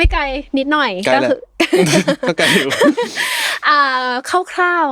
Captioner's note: laughs